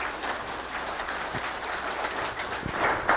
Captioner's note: clapping